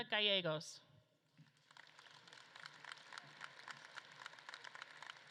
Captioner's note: audience claps